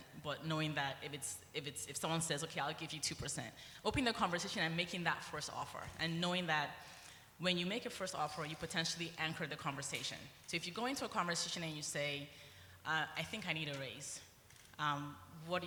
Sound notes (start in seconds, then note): none